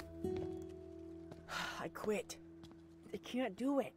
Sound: sighs

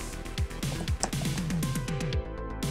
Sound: typing

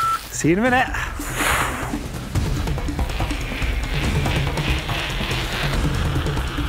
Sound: timer beeping; energetic music; bike wheels zipping

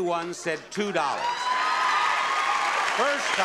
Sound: audience claps

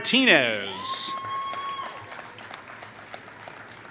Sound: applause

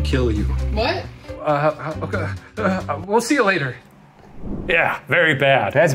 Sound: stammering

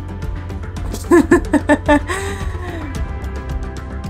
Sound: background music; laughs; background music

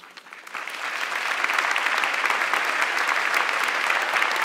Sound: audience clapping

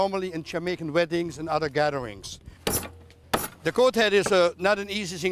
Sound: chopping

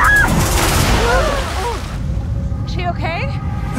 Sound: Waverley yells; both gasping; water splashing

